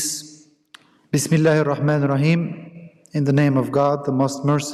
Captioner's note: speaks in Arabic